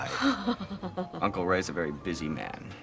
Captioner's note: Pat laughs